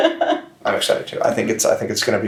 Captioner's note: chuckles